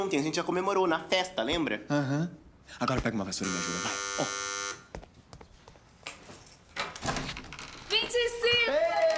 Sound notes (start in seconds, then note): 3.4 door buzzing